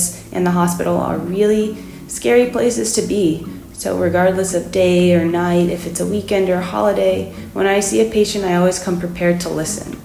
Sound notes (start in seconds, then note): none